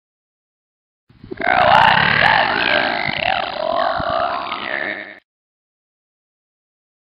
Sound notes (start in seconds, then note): 1.3 sound of monster